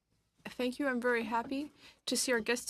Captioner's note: speaking French